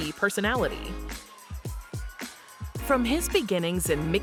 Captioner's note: attendees faintly cheering